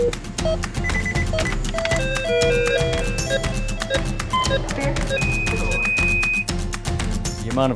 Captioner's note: beeping